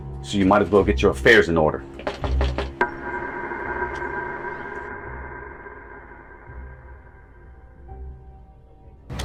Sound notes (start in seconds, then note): 2.3 fist knocking